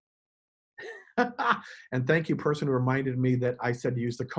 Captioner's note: chuckles